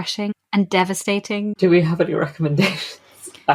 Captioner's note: laughing